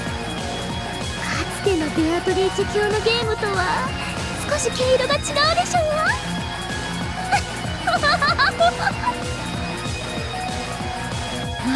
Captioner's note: giggle